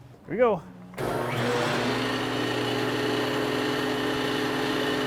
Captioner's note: machine whirring